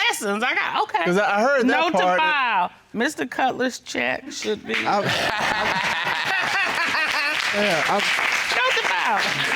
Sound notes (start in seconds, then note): 4.9 all laugh; 5.0 audience applauding